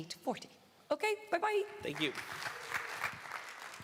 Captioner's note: applause